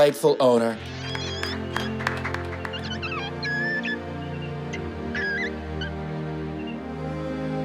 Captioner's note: gentle music; audience claps